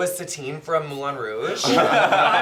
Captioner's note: laughter